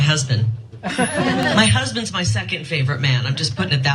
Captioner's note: laugh